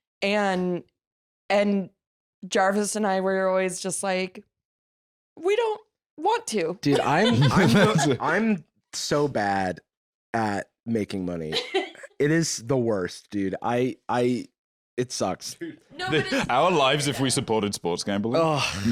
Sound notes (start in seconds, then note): 11.5 laughs